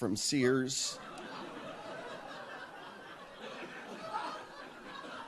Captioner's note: audience laughs